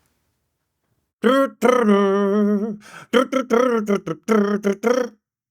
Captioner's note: humming